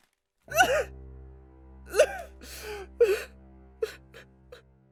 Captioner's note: sobbing